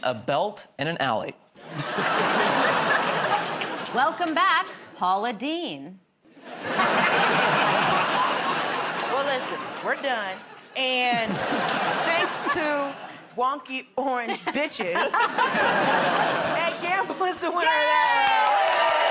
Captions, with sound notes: a belt, and an alley. [ Laughter ] -Welcome back, Paula Deen. [ Laughter ] -Well, listen, we're done. And thanks to "wonky orange bitches," Ed Gamble is the winner of that round.